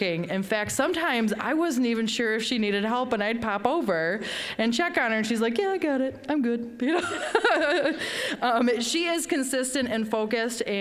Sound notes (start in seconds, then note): 7.0 laughing